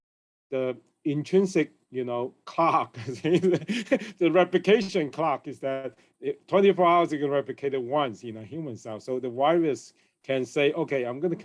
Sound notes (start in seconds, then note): 3.0 chuckles